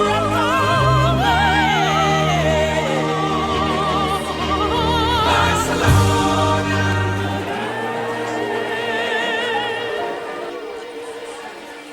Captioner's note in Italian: Applauso